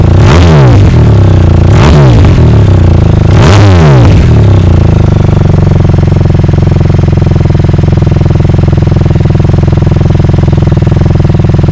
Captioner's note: engine revving Akrapovic exhaust